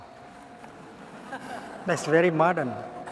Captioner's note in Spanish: Risas